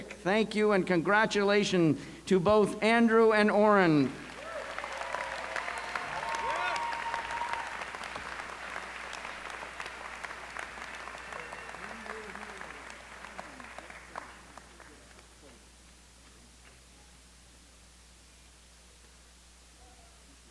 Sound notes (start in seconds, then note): 4.4 applause